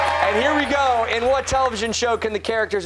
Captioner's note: cheers and applause